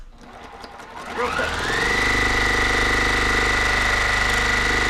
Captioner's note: machine whirring